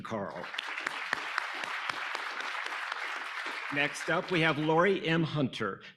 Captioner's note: audience applauding